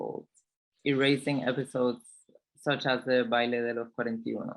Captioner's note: speaks in foreign language